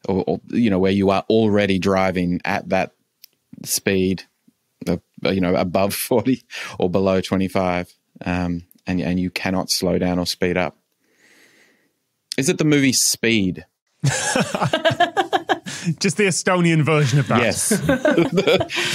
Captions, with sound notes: you know, where you are already driving at that speed. You know, above 40 or below 25. And you cannot slow down or speed up. Is it the movie Speed? (others laughing) Just the Estonian version of that? Yes. (chuckles)